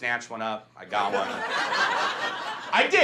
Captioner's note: audience laughs